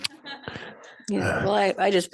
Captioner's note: group laughing